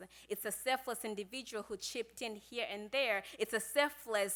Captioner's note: none